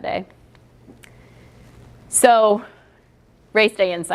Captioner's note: pause